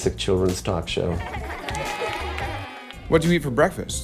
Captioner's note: children laughing